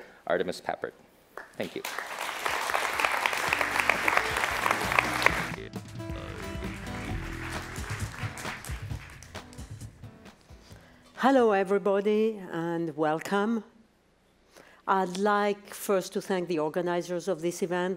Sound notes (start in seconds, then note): 1.4 applause